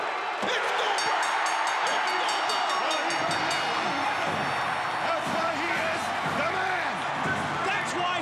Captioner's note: applause